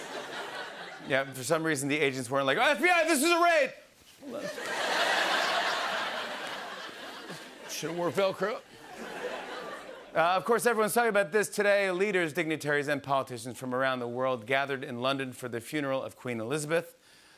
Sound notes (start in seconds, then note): 4.3 laughter